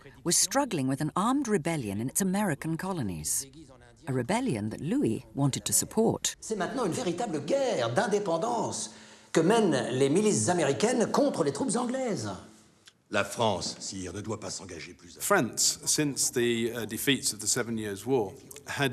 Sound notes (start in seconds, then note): 6.6 men speaking in French